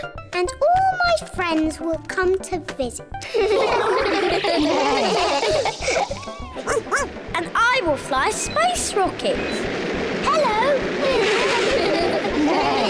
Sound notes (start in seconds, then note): 3.2 all laugh; 6.6 barks; 11.1 all laugh